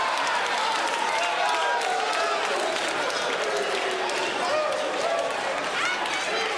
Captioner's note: crowd cheering